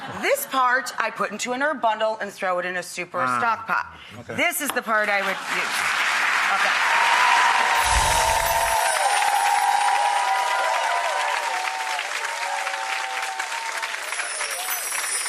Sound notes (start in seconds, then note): 7.5 audience cheers